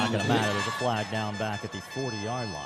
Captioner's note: laughter